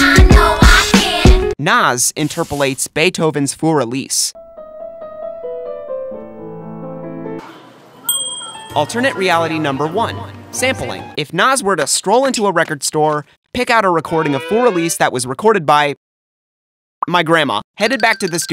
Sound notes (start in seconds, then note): 7.4 supermarket ambience; 8.1 ding